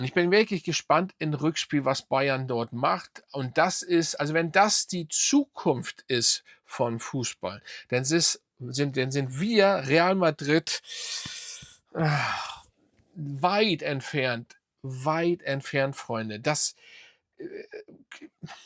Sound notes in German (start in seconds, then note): 11.9 seufzt; 12.0 japst